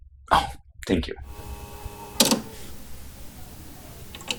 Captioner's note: cassette deck snap